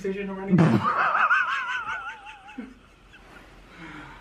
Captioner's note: laughs